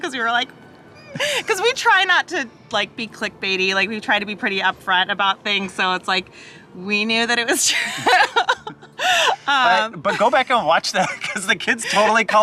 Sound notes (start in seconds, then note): 7.8 chuckles